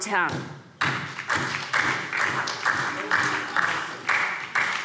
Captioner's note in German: Beifall SPD und DIE LINKE